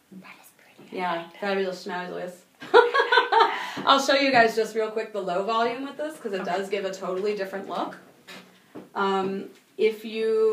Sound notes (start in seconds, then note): 2.7 laughing